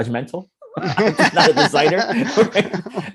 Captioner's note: laughing